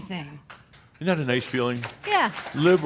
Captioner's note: some applause